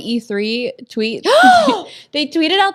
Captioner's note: exclaims